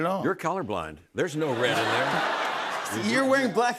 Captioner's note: laughter